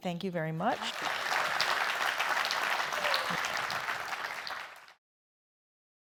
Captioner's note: applause